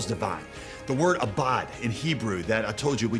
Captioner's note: speaks in foreign language